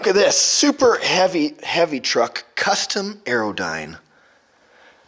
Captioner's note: none